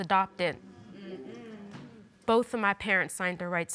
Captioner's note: audience affirms